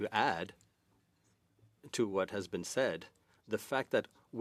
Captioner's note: speaking French